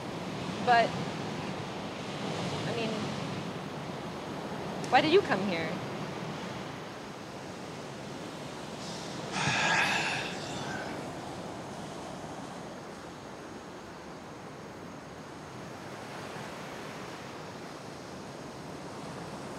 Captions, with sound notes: But, I mean... why did you come here? [waves crashing] - [sighs heavily]